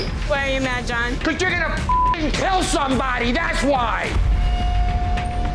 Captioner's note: beep